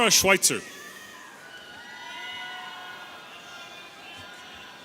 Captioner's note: audience cheering